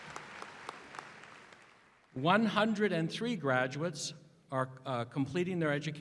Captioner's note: applause